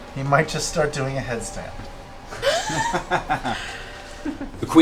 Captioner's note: laughter